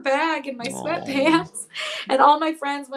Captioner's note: chuckles